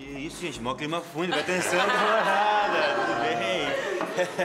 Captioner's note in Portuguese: risos